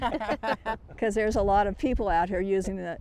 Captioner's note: laughing